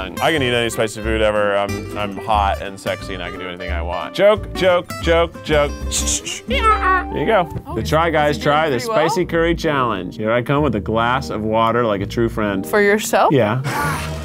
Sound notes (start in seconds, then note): 5.9 makes sound effect